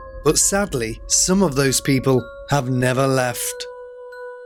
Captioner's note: none